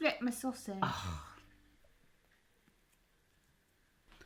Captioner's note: sighs